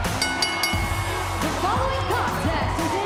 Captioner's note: bell